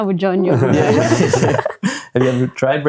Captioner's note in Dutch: lacht